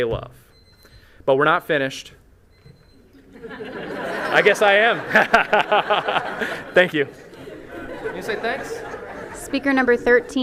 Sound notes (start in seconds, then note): 3.2 laughter